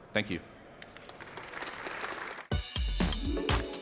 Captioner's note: applause